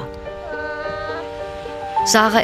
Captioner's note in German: Jauchzen